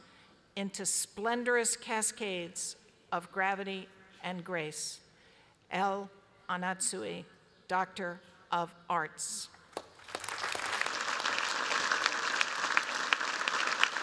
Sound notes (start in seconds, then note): 9.7 applause